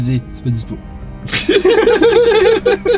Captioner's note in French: rires